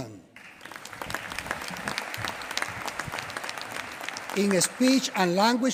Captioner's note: applause